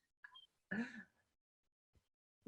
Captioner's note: laughing